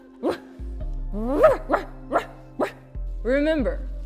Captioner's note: barking